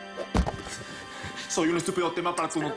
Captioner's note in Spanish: Ruido al lanzar otra cosa